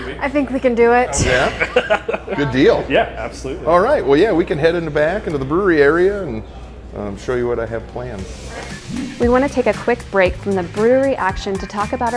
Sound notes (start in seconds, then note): 1.2 laughing